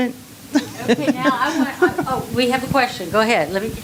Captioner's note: laughing